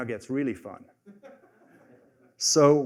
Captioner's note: laughter